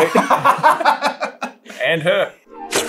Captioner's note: laughter